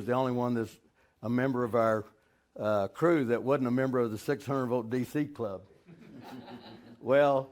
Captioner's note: audience laughing